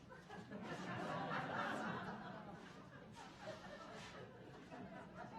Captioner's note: audience laughing